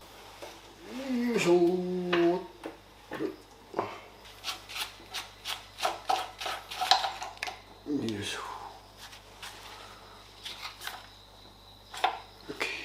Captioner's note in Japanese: 作業音